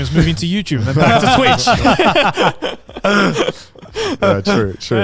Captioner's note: all laughing